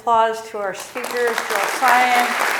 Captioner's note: clapping